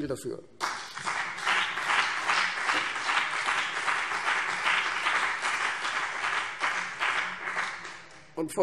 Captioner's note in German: Beifall CDU und BÜNDNIS 90/DIE GRÜNEN